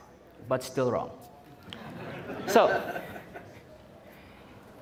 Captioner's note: audience Laughing